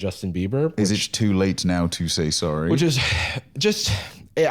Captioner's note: sighs